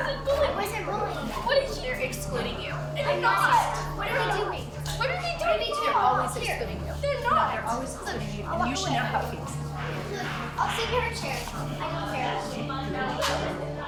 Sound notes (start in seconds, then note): none